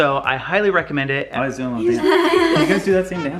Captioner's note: laughing